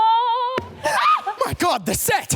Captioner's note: set thuds; shrieks